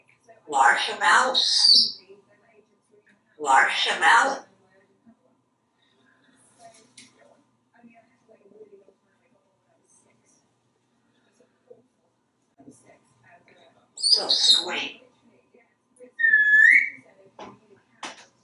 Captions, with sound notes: Marcia Mouse! Marcia Melon! So sweet! [whistling]